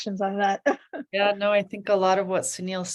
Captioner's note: chuckles